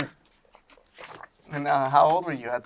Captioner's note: paper crinkling